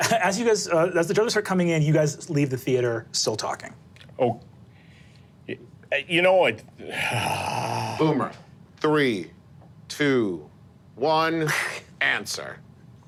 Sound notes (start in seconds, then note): 6.8 sighs